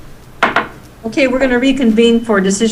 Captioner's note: gavel bangs